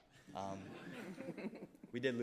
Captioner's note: all chuckling softly